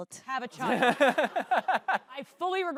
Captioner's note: laughs